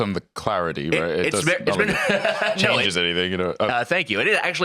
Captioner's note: laughs